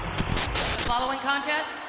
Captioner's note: static crackling; upbeat music